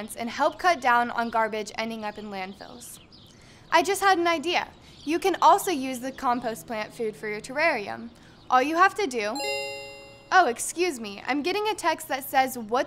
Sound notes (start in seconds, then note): 9.4 phone rings